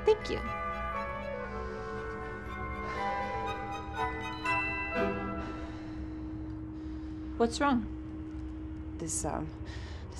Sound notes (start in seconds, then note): 2.9 heavy breathing